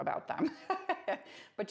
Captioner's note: laughs